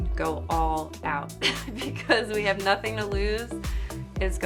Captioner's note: laughs